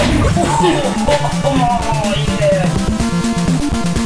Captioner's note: whimpers